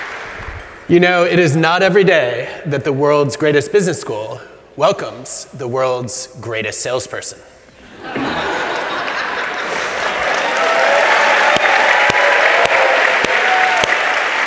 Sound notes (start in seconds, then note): 7.8 laughter; 8.9 applause